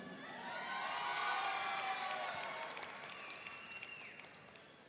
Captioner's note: audience cheering